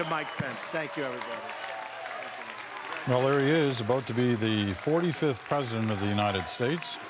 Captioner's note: cheering